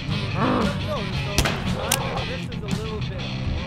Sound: door latch clicks; zombie screaming

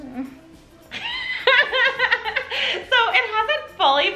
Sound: laughs

